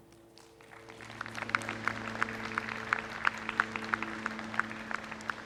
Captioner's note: attendees clapping